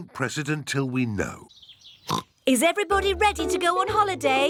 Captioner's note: oinks